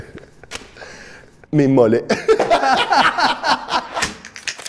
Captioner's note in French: rires